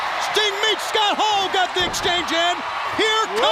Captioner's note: crowd cheering